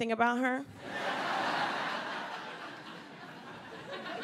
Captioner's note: audience laughs